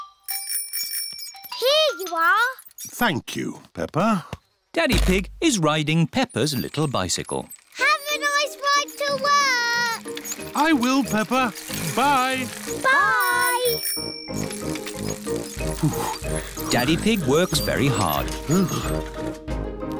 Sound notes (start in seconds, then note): 0.0 bell rings; 13.4 bell rings; 15.3 panting